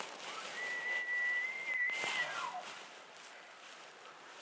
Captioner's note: elk bugle